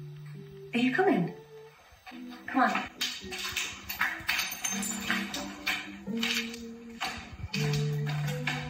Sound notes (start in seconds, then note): 2.9 glass crunches underfoot; 5.3 door opens, music grows louder